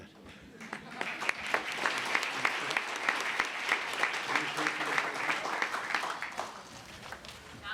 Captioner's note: applause